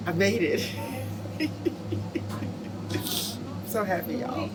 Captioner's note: chuckles